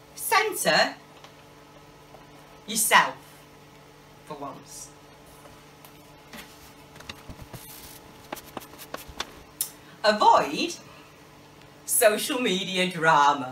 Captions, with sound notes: Center yourself, for once. [ DIGITAL FAST FORWARDING NOISE ] Avoid social media drama.